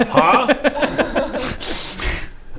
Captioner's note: giggles